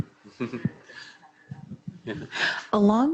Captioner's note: chuckles